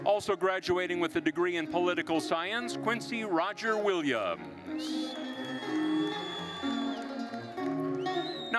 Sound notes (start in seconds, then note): 4.6 attendees cheering; 6.4 lively orchestral music continues